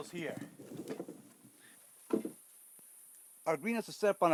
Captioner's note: sounds of screen opening